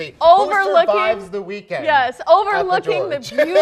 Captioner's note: laughing